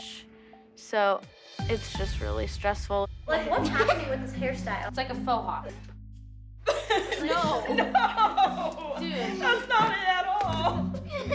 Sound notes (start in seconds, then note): 6.6 laughter; 6.7 laughing; 11.1 laughter